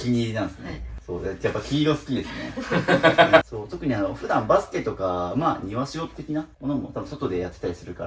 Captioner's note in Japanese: 笑い